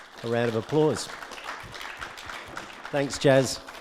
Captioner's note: audience clapping